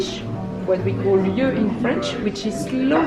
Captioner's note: speaks in foreign language